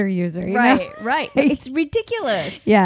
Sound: laughing

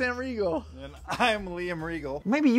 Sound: uproarious laughter

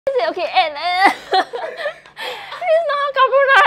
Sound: laughs

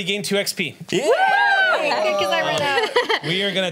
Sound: cheers

